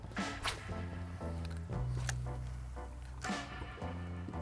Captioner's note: reels click